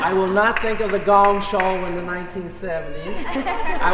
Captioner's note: laughter